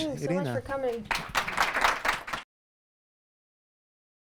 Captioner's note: applause